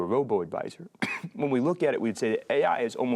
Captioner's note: coughs